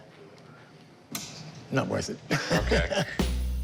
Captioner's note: chuckles